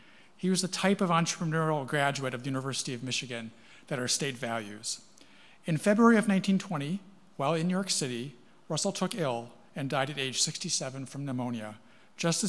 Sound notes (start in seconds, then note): none